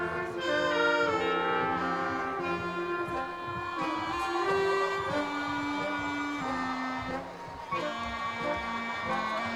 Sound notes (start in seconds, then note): 6.2 crowd cheering